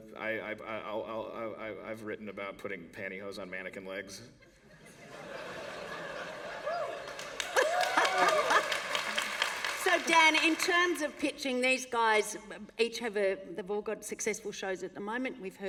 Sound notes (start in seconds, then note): 5.9 cheering and Applause